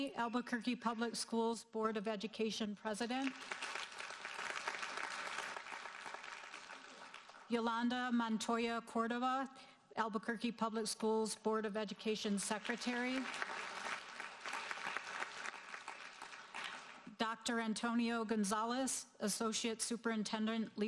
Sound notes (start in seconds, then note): 3.2 audience applauding; 12.6 audience applauding